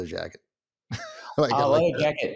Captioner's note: laughs